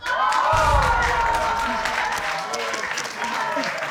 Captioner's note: audience applauding